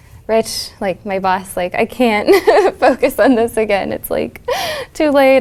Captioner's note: laugh